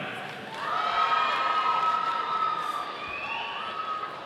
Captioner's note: audience cheering